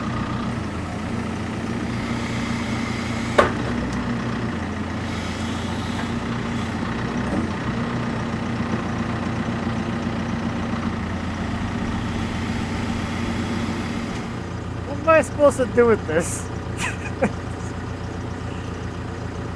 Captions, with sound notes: (metal clanking) (engine revving) What am I supposed to do with this? (engine revving)